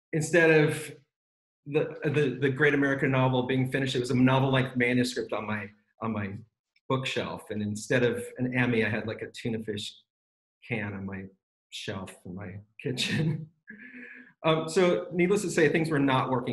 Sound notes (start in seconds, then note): 13.0 laughs